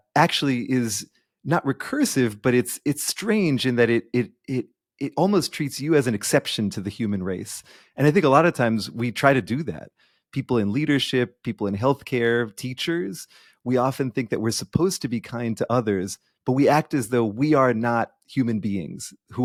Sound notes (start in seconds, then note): none